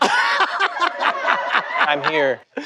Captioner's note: laughter